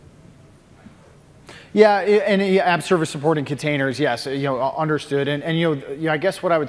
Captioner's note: off mic